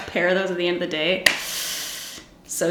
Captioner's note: hissing